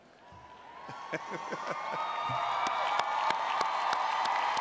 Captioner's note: audience cheers